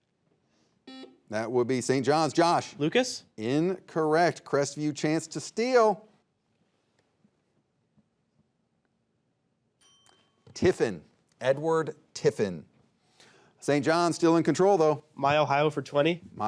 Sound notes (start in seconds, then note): 0.8 buzzer beeping; 9.8 bell ringing